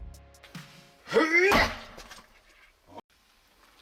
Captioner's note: grunts